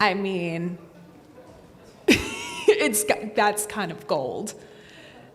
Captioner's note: laughs